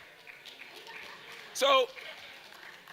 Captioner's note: audience applause